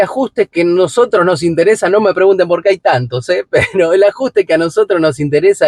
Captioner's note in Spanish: risas